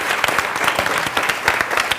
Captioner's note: applause